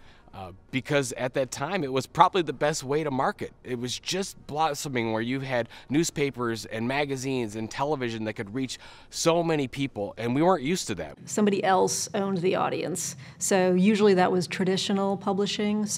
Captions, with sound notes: because at that time it was probably the best way to market. It was just blossoming where you had newspapers and magazines and television that could reach so many people and we weren't used to that. - [Voiceover] Somebody else owned the audience, so usually that was traditional publishing,